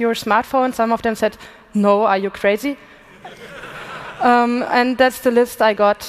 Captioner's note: laughter